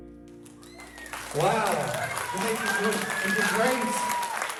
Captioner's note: audience cheering